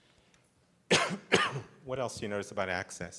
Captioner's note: coughs